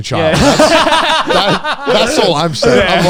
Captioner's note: laugh